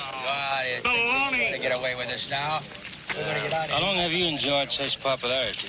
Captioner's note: all yelling